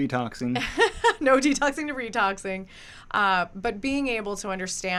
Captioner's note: laughs